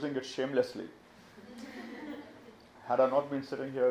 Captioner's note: audience laughs